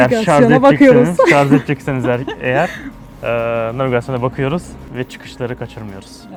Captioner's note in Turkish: kahkaha